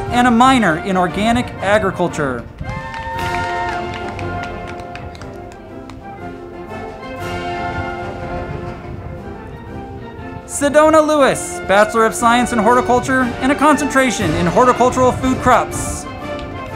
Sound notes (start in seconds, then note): 2.3 crowd clapping and cheering; 2.8 band music